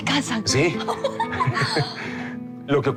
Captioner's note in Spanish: Risas